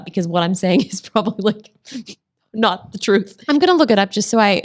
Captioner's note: laughs